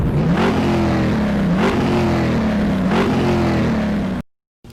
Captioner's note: engine revving